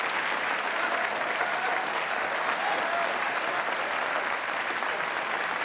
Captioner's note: audience cheering